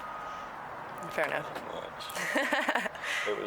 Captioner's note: laughs